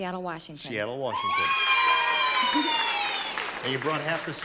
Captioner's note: applause